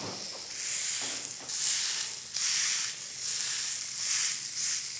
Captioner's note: meat sizzling